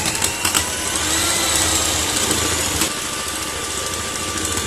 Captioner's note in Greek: ήχος μίξερ